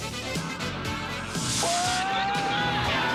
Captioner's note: screams